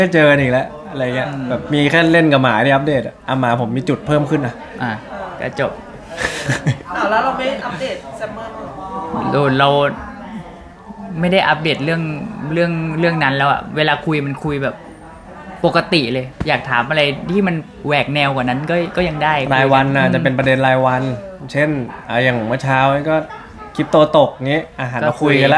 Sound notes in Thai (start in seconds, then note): 6.0 เสียงหัวเราะ